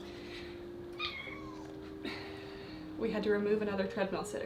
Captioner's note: Peach meows